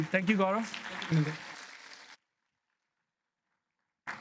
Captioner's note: applause